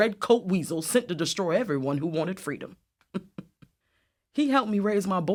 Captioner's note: laughs